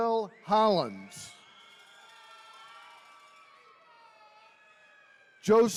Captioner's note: attendees cheering